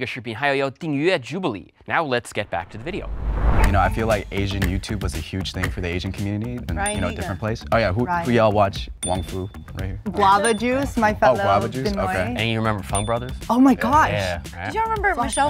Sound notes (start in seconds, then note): 6.8 bell dings; 10.2 bell dings